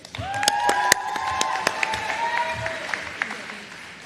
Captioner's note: applause